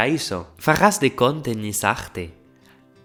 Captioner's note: in nissart